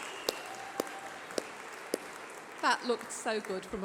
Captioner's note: applause